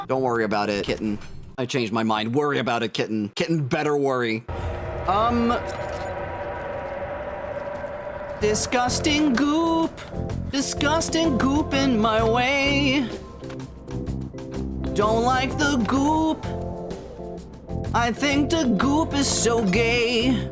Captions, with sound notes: Don't worry about it, kitten. I changed my mind. Worry about it, kitten. Kitten better worry. Um... [Otherworldly roar] (Singing) Disgusting goop. [Slow, silly music plays] (Singing) Disgusting goop in my way. [Slow, silly music plays] [Slow, silly music plays] (Singing) Don't like the goop. [Slow, silly music plays] [Slow, silly music plays] (Singing) I think the goop is so gay. [Slow, silly music plays]